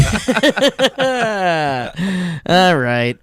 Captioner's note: laughing